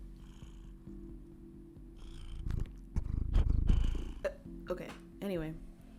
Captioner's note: loud purring